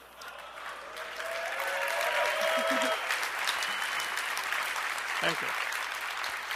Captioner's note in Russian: бурные овации